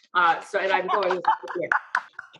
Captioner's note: laughs